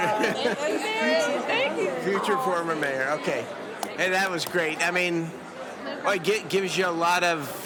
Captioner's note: laughing